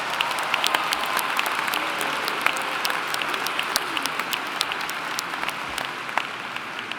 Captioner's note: applauding